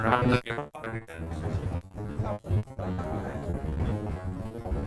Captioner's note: sound crackles